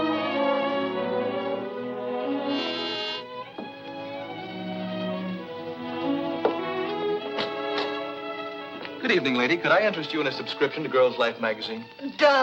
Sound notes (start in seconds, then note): 2.4 door buzzes